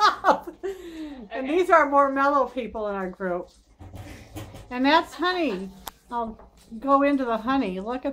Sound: laughing

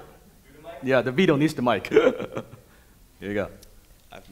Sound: laughs

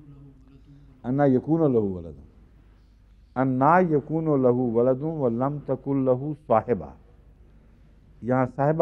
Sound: Arabic

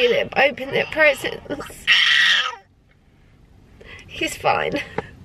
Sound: baby screams

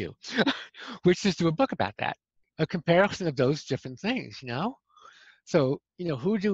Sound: laughter

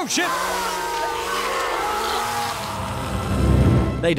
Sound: chainsawing / screaming / gory splattering

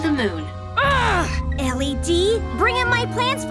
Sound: groaning

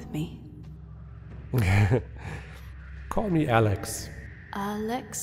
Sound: laughing

